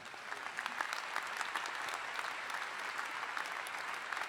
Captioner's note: all applauding